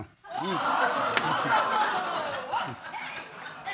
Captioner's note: audience gasps and laughs